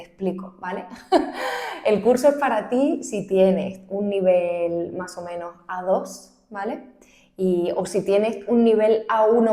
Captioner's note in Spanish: risas